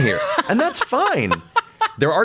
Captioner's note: laughs